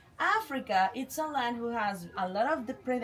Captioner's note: none